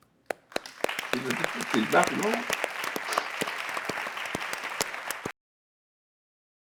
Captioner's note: audience clapping drowns out speaker